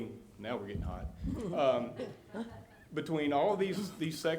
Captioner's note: some chuckling